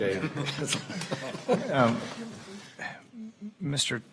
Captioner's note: Regents chuckling